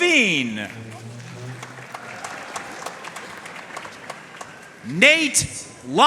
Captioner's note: audience cheering and applauding